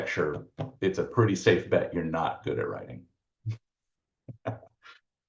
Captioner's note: laughs